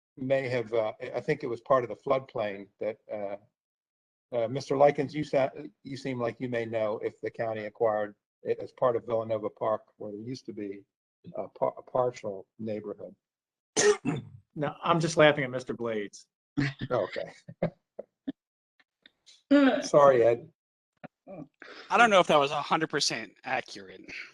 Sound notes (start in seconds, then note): 16.6 laughter